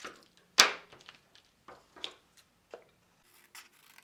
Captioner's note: scissors clatters; scissors snipping